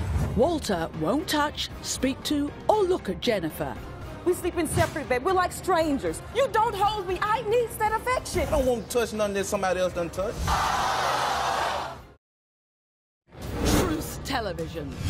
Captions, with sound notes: Walter won't touch, speak to, or look at Jennifer. - We sleep in separate beds, we're like strangers. You don't hold me, I need that affection! - I don't wanna touch something that somebody else done touched. (audience booing) - Truth television.